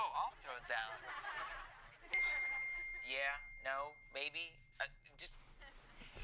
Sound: chimes

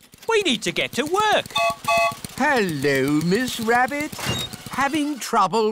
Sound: gertrude's whistle blows

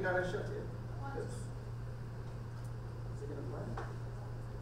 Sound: voiceover

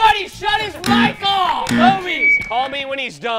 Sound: buzzer

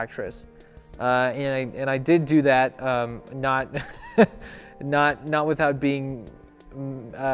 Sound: ackward laugh

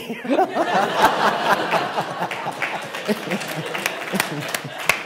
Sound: laughter

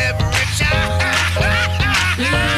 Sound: laughs

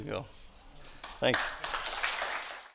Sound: applause

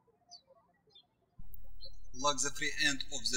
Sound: birds chirping

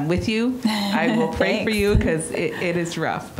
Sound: chuckling

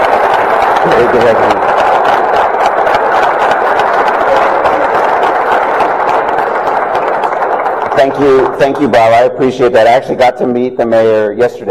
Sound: applause

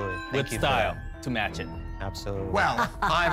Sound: laughs

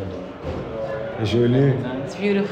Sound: speaks native language

